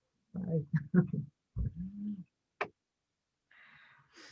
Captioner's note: chuckles